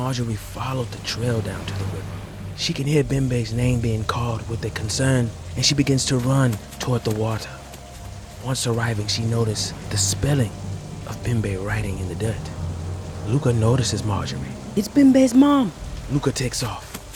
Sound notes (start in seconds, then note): 7.0 fast footsteps; 17.0 fast footsteps